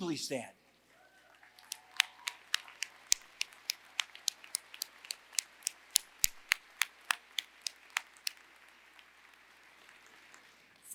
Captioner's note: applause